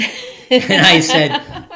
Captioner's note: laughing